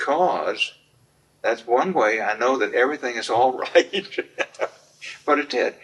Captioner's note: laughs